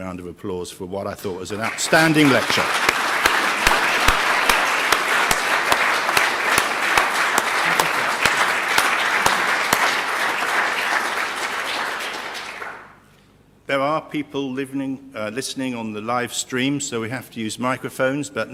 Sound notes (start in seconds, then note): 1.2 applause